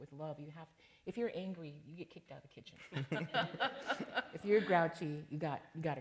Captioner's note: laughter